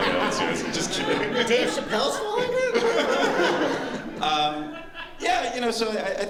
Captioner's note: laughter